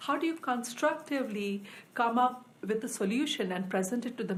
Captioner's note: none